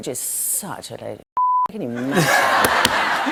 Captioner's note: laughter